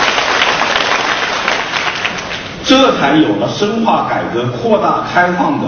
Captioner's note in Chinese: 众人鼓掌声